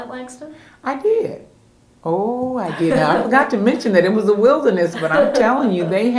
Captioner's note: laughter